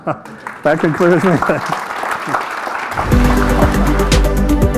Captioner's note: audience applauding; upbeat music